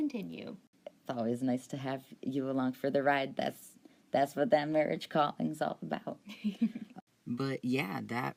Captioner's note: laughs